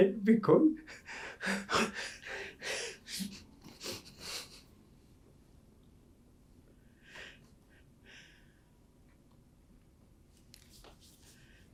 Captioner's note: crying